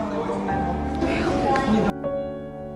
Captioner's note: whispers